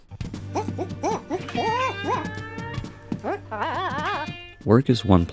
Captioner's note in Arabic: موسيقى غير تقليدية; صراخ رجل